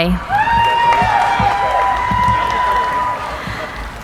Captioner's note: cheering